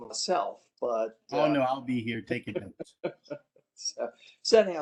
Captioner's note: laughter